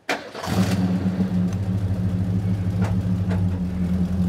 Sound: engine turns over

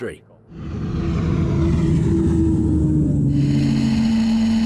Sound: engine roars

